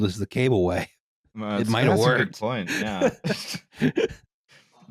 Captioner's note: laughs